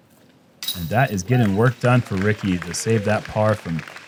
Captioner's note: applause